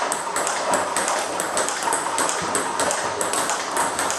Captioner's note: ball ping pong hitting